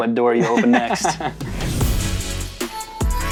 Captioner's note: both laughing; upbeat music